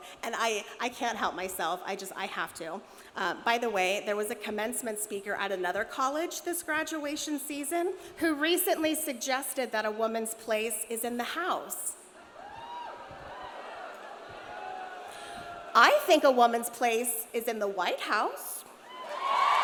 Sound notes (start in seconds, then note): 13.3 audience jeering